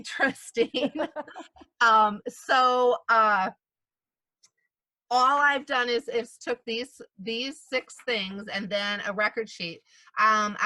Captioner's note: laughter